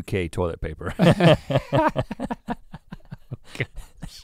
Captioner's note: both laugh